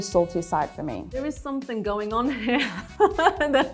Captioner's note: laughs